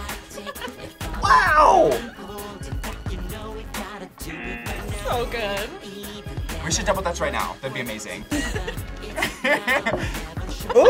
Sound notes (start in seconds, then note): 0.1 React laughs; 4.2 buzzer; 8.2 laughs